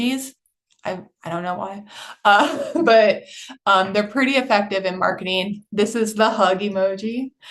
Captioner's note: chuckles